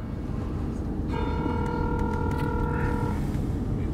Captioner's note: phone ringing